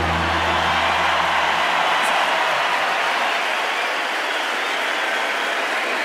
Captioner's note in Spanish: Aplausos y vítores